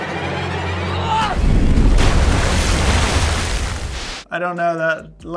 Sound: dramatic music; wave crashing

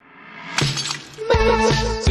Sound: shatter

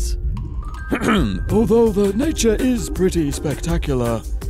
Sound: imitates david attenborough

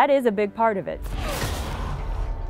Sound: crash!

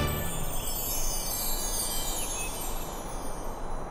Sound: tinkles

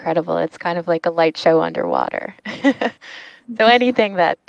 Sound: laughs

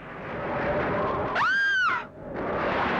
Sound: screams

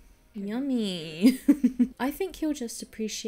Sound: laughs

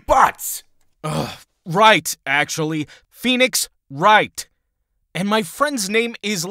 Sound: groans

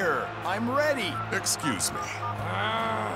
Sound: phone beeping; automatic growling

